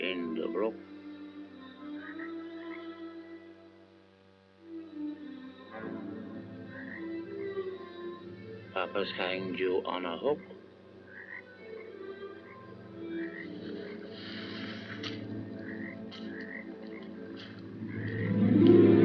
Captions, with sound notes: in the brook... Papa's hanged you on a hook. [ FROGS CROAKING ] [ FOOTSTEPS ]